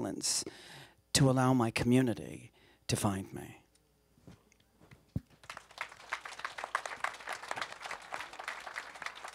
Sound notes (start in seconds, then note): 5.3 applause